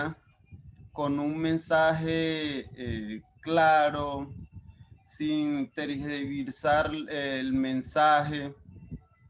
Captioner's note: speaking Spanish